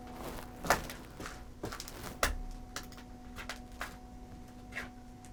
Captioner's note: debris crackling